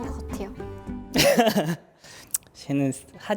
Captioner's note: awkward laugh